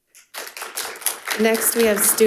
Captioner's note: audience clapping